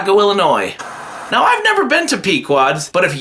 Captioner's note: TV Static